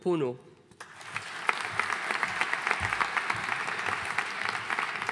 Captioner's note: audience applauding